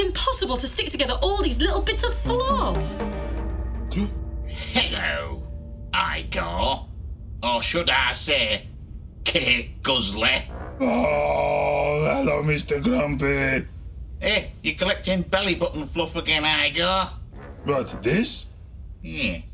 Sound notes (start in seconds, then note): 3.0 Igor gasping; 3.0 soft tense music; 10.4 groaning